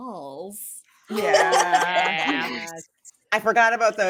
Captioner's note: cast laughing